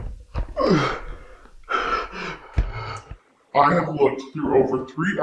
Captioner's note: Chuck gasping